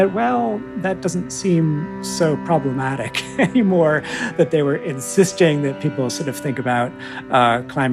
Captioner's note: laughter